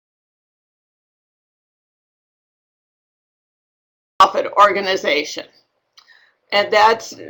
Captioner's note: audio interrupted and silence - 16:34